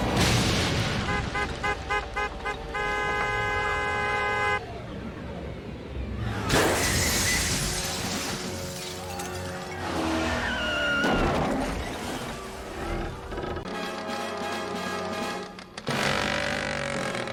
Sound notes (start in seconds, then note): 0.0 crash; 1.0 car horn honking erratically; 6.6 glass breaking; 9.9 car engine; 10.4 tyres screeching; 11.3 crash; 12.6 creaking; 15.9 two-stroke engine revving